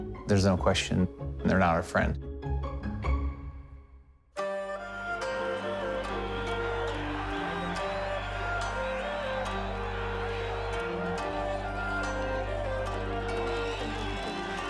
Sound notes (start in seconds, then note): 4.4 soft music; 7.5 crowd shouting